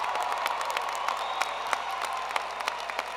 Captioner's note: applause